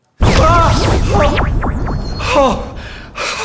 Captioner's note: transdimensional teleporting sound